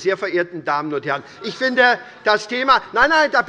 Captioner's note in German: Zurufe von der CDU